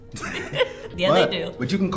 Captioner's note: laughing